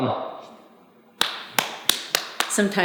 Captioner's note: clapping